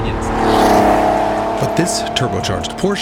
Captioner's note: engine revs